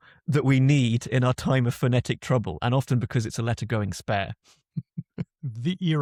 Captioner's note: laughs